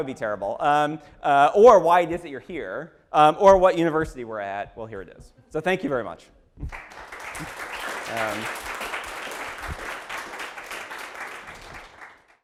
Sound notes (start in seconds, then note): 6.6 applause